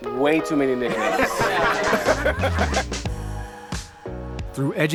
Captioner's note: upbeat music; group laughing